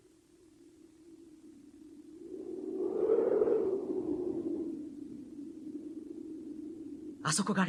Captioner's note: SFX: wind blowing